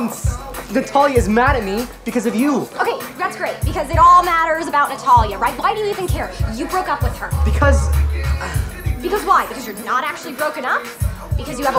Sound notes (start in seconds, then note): 8.2 sighs